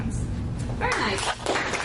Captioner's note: claps